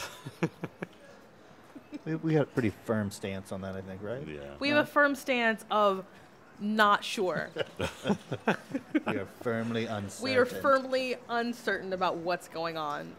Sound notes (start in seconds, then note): 7.3 chuckles